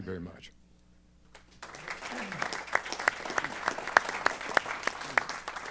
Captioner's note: applause